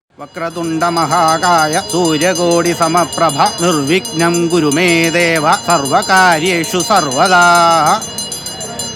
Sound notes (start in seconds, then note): 0.1 hindu ritual chanting; 4.3 chanting continues